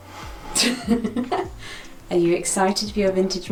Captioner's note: laughs